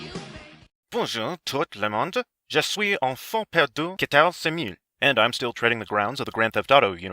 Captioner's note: French